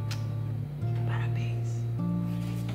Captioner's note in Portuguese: sussurrando